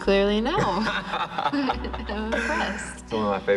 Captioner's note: both laughing